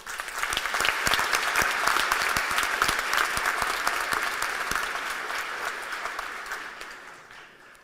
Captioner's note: applause